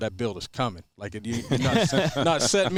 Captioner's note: laughing